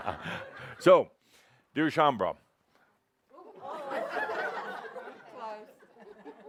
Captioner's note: Adamus chuckles; laughter as he tosses the hat back